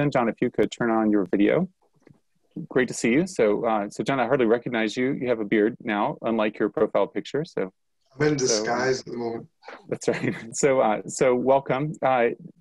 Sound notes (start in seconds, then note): 8.3 chuckles